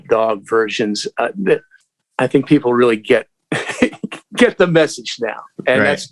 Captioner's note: laughter